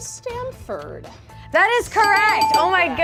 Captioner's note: buzzer rings